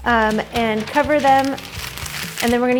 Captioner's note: parchment crinkles